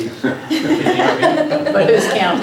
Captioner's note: laughter